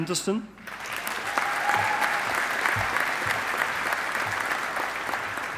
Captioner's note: audience applauding